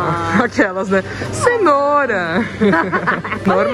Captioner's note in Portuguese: risos